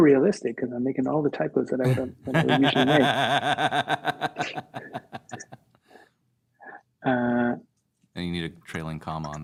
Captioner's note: laughter